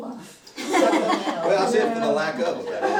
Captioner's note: laughter